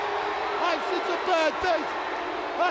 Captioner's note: crowd cheering